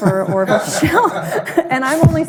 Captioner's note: all laughing